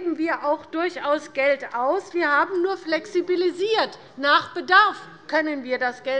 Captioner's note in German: none